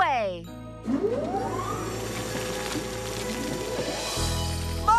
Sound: crane Whirring

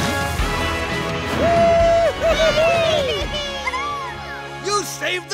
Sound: cheering

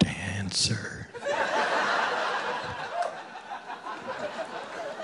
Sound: audience laughing

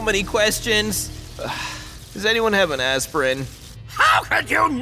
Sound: sighs

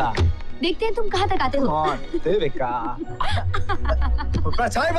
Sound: laughs

